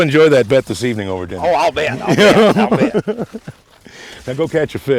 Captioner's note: laughter